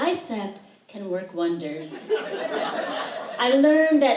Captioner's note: laughter